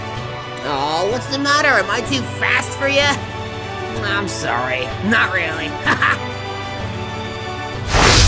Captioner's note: cackles